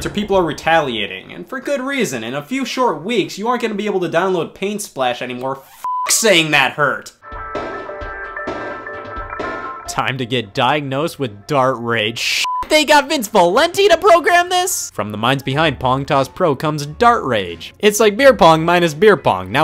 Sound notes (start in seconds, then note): 5.8 beep; 12.4 beep